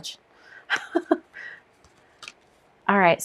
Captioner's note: chuckles